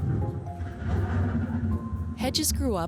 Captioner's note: thunder rumbling